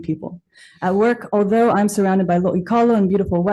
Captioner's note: speaks Hawaiian